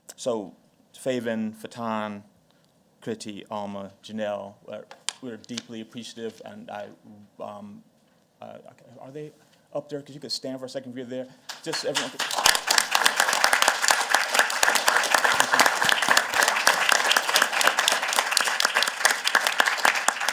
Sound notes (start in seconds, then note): 12.3 applause